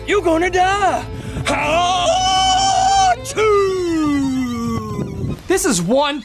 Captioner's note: yelling